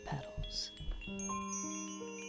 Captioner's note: sound of bells